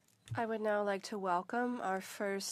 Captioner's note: speaking French